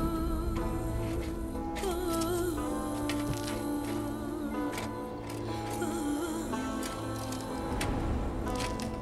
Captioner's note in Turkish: Müzik - Hüzünlü; Kürek sesleri